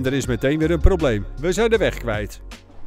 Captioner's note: voiceover